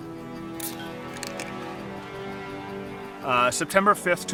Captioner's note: biting ice cubes